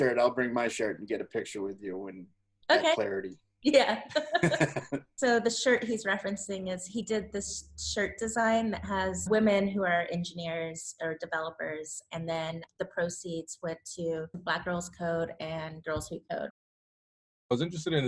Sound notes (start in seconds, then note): 4.1 both laugh